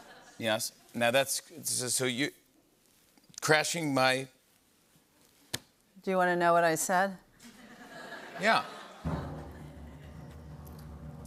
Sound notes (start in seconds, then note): 7.4 laughter; 9.0 drumroll